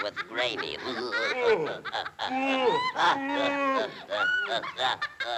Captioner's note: Olive Oil laughing; Sinbad grumbling; both laughing